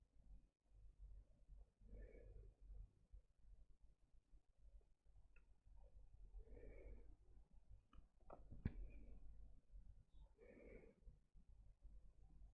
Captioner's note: sharp inhale